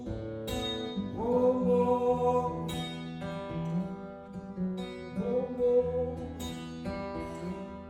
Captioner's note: humming